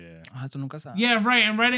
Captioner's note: speaking In Foreign Language